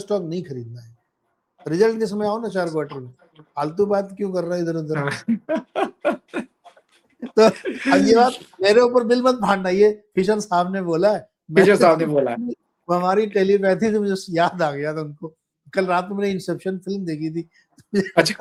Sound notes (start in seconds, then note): 5.0 laughter